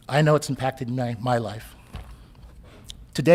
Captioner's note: none